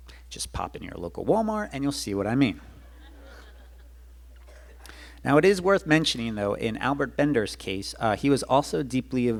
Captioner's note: audience laughs